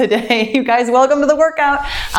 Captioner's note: laughs